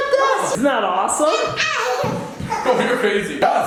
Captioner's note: laughs